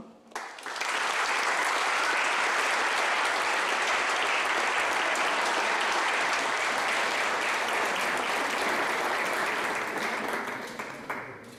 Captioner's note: clapping